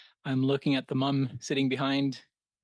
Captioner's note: speaking French